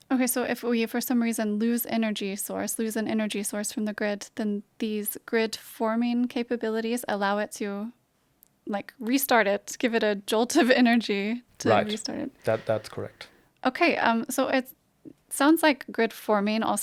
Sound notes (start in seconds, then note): 11.6 chuckles